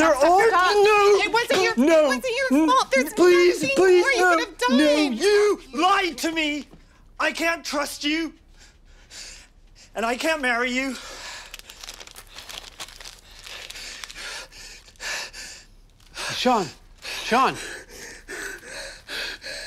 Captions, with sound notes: Shaun, stop, stop, stop, stop! They're all -- N-No! It wasn't your -- It wasn't your fault! N-N-- Please! Please! No! There's nothing more you could have done! No, you lied to me! I can't trust you! And I can't marry you. [ Breathing heavily ] [ Paper crumples ] Shaun. Shaun! [ Hyperventilating ]